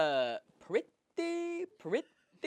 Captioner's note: Larry David voice